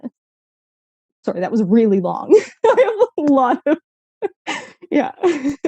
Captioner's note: laughs